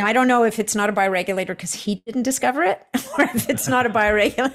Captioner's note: chuckles